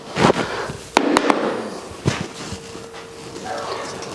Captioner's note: tapping